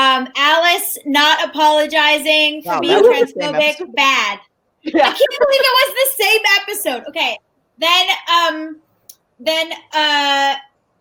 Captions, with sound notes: Alice not apologizing for being transphobic, bad. - Yeah. (laughs) - Like can you believe that was the same episode?